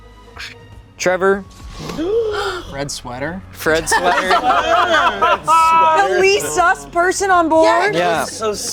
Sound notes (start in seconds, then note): 3.7 laughing